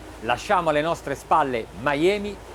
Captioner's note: speaking in foreign language